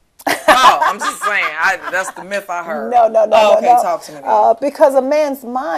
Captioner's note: laughter